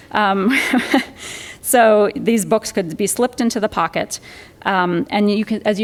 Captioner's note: laughs